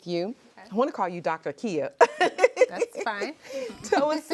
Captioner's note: laughs